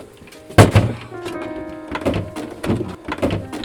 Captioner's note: thudding